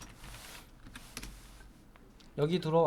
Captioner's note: silence